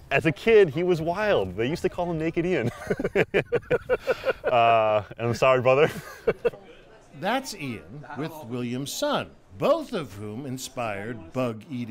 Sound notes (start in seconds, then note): 2.6 laugh